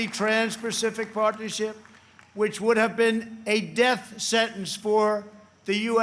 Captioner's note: applause